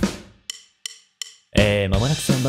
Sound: deep voice

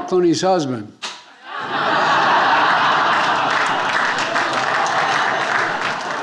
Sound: attendees laughing and applauding

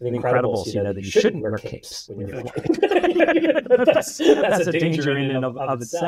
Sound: laughs

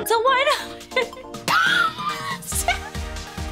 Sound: laughing

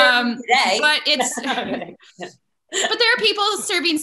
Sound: laughs

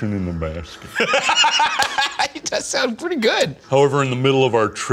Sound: laughing

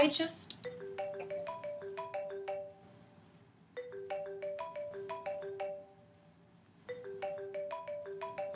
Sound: phone ringing

